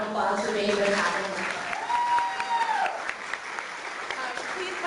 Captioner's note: clapping